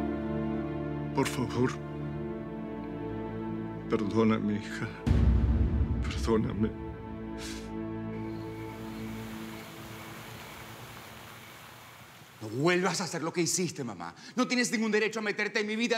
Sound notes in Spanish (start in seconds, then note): 7.8 Solloza; 11.5 Sonido del agua